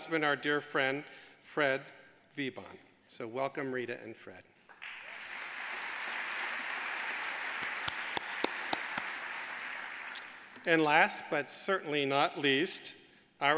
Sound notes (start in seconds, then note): 4.7 audience applauding